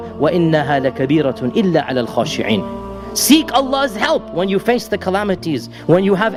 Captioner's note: recitation of Verse